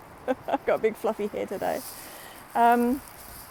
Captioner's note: laughs